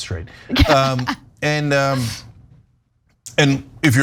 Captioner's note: laugh